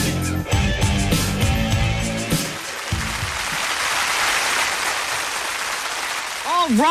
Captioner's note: applause